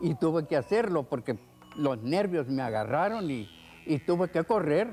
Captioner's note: speaking foreign language